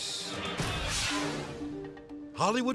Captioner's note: graphics whoosh; gentle music